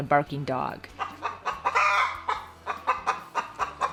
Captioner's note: hen clucks